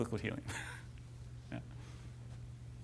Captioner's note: laughs